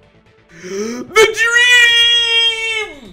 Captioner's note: gasp